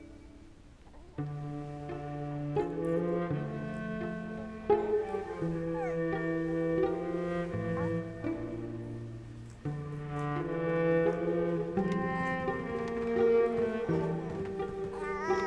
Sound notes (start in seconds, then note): 0.9 cooing; 4.7 cooing continues